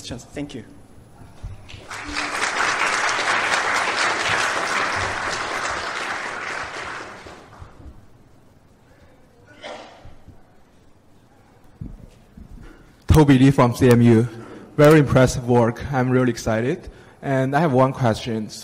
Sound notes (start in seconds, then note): 1.6 applause